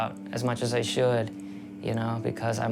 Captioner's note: none